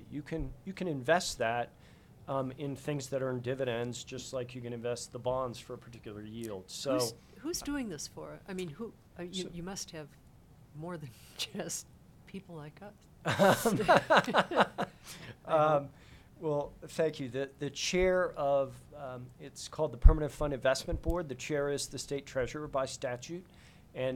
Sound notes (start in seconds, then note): 13.3 laughing